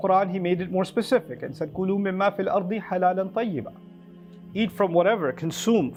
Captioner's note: Arabic